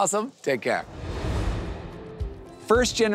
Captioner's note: air whooshing